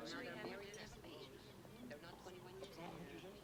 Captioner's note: indistinct chatter